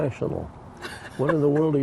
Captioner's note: laughs